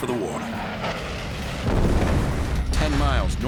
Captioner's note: explosion